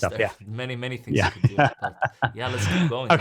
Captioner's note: laughs